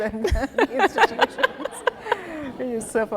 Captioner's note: audience, laughing